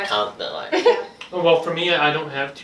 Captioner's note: laughs